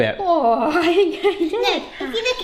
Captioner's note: gasping